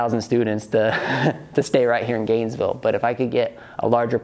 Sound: chuckles

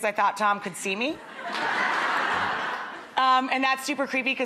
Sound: audience laughing

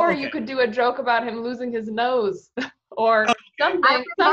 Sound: chuckles

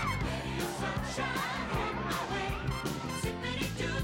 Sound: all scream

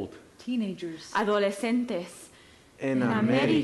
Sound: actor speaking Spanish

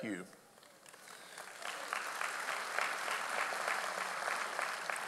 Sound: audience applauds

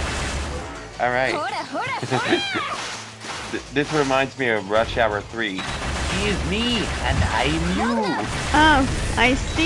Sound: laughs

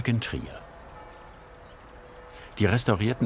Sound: church bells

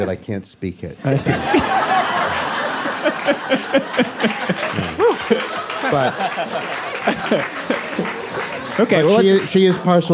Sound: applause; laughs

